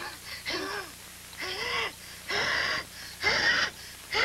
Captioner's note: she fights for breath